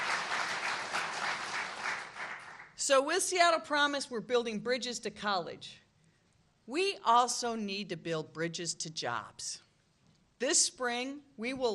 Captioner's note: applause